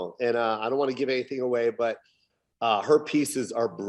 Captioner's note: none